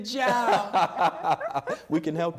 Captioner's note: laughter